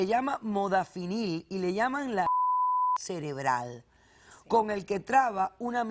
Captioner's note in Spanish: Bip